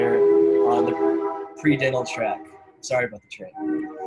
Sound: train horn sounds

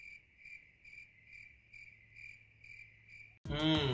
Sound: crickets

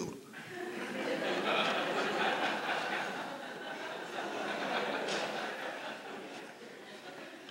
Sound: laughter

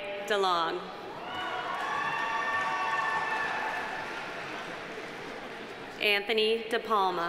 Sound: audience cheering; audience applauding

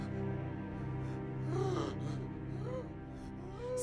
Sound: raspy breathing

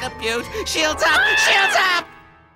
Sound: scream

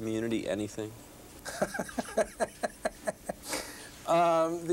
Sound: laughter

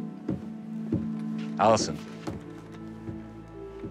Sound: none

